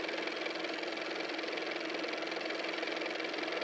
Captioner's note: car motor